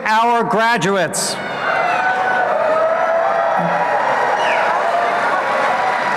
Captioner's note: applause